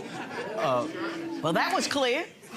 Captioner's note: audience laughing